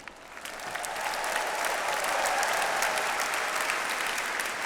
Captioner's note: audience applauds